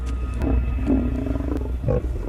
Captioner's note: growls